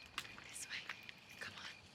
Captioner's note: whispering